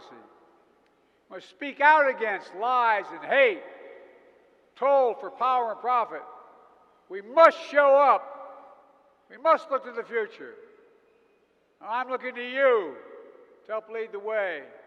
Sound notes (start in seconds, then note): none